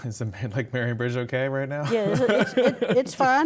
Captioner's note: laughs